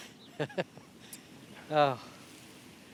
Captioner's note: gwydion laughs